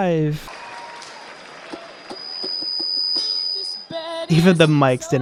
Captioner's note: extremely loud high pitched microphone feedback